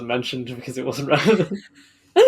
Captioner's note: laugh